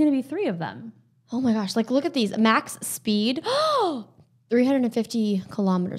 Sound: gasps

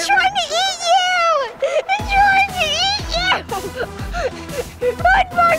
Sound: laughs

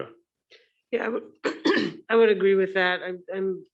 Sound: clears throat

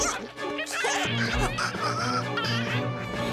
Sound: chittering

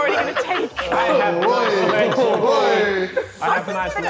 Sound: Sidemen laughing and speaking indistinctly

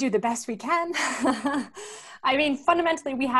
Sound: chuckles

